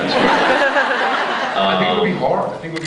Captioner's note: laughs